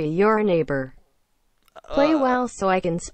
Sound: puke

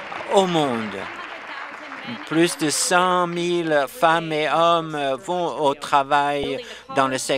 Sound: applause

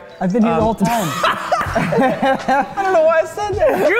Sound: laughing

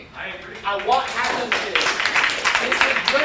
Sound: applause

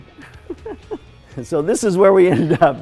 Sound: laughs

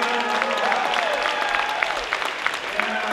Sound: crowd cheers

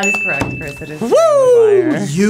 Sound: bell dinging

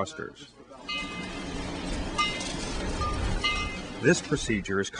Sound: series of three loud clangs

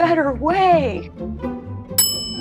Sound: bell ding

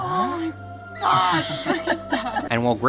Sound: raptor screeches; all laughing

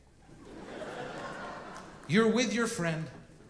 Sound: audience laughing

